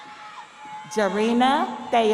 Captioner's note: audience cheering; audience applauding